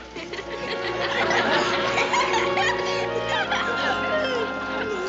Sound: laughing

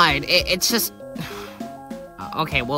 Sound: sighs

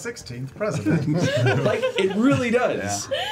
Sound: all laugh

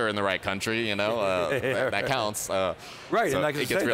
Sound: laughing

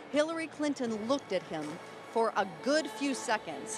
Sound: none

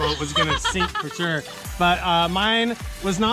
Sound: laughs

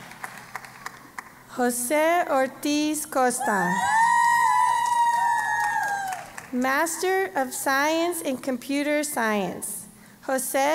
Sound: cheering

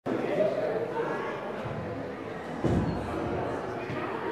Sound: crowd chatter

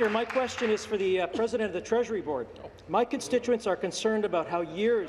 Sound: applause

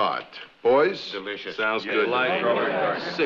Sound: multiple agreeing speakers

